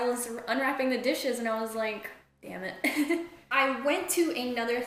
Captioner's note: chuckles